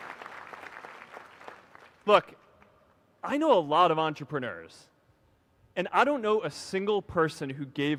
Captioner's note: applause